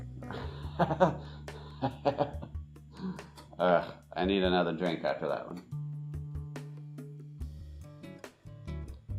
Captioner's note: laughs